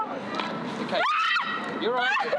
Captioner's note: screams